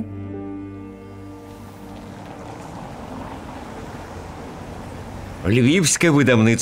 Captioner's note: A street noise